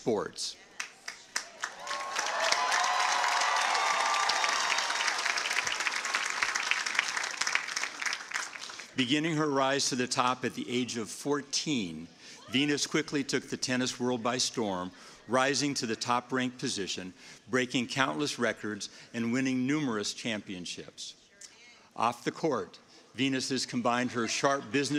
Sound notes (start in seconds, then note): 6.8 cheers and applause